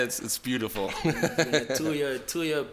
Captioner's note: laughs